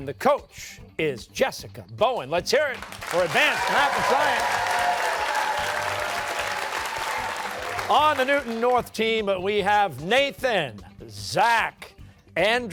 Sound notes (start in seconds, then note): 4.6 cheers and applause